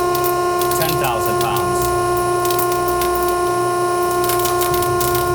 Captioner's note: sling crackling